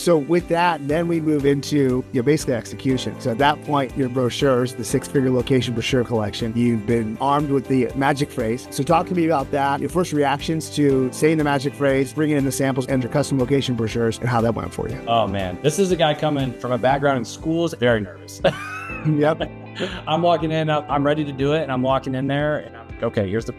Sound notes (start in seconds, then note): 18.4 laughs